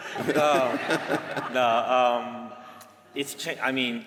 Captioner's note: laughter